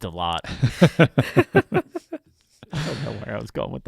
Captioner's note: laughing